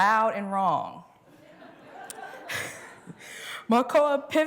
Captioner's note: laughter